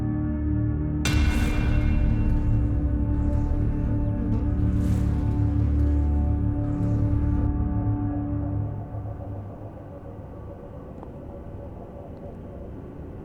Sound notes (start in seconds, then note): 0.8 soft ominous music; 4.2 flies buzzing; 10.0 gentle tense music